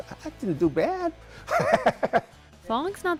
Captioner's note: laughs